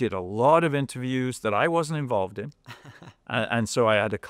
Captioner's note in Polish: śmiech